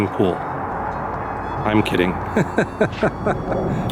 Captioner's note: laughter